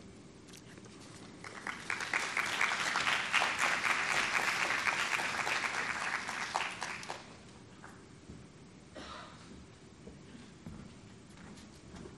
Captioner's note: applauding